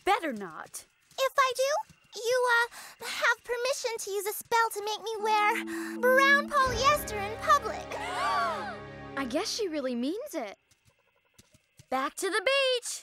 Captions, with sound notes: IF I DO, YOU, UH, HAVE PERMISSION TO USE A SPELL TO MAKE ME WEAR BROWN POLYESTER IN PUBLIC. [ALL GASP] I GUESS SHE REALLY MEANS IT. BACK TO THE BEACH.